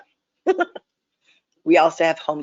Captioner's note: chuckling